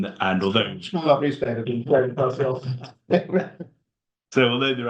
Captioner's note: speaking speaking faintly